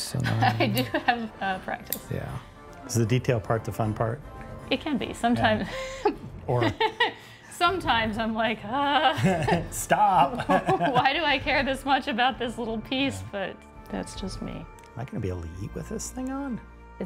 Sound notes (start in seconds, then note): 0.2 laughs; 9.1 laughs; 10.0 both laughing; 10.2 laughs